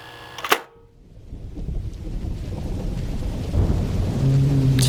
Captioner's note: VHS player starting; thunder and rain; large creatures groaning in the distance